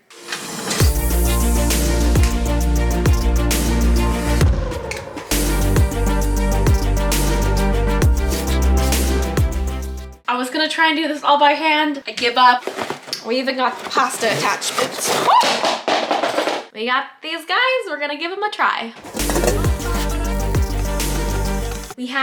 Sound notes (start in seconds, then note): 0.2 upbeat music; 15.0 yelping; 19.0 upbeat music